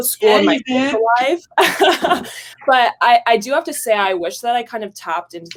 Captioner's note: laughs